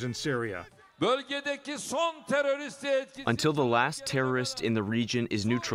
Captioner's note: through translator